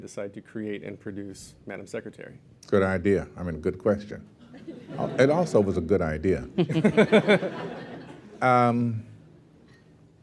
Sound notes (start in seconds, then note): 6.5 laughter